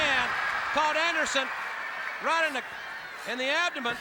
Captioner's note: crowd cheering